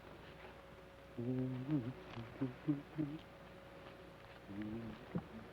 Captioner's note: Joshua hums melodically